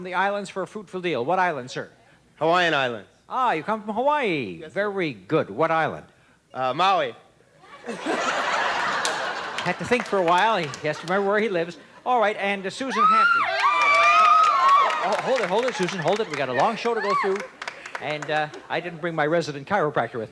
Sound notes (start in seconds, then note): 7.6 laughing